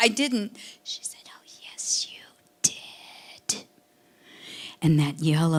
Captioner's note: whispering